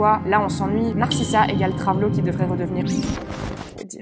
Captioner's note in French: bip